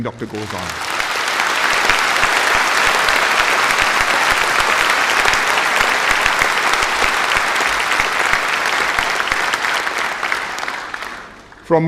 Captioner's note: applause